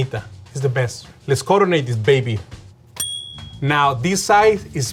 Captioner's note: bell rings